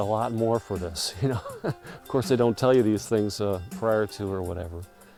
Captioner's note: chuckling